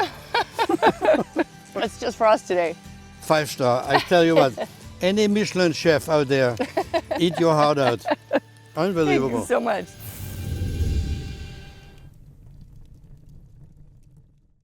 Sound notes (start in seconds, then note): 0.0 laughs; 6.5 laughs